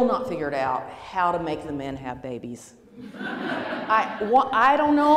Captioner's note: laughing